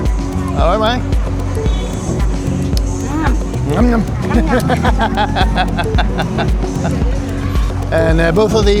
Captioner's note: laughter